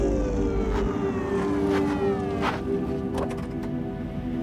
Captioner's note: sirens wailing